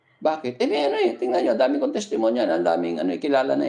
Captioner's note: laughter